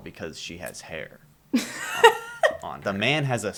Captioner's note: laughter